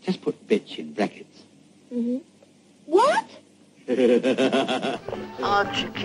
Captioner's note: man laughs